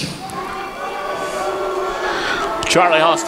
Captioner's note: crowd booing